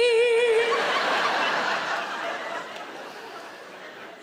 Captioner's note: laughing